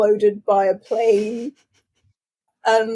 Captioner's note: laughs